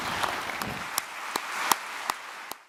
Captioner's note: audience clapping